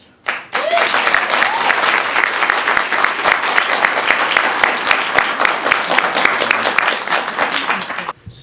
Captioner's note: clapping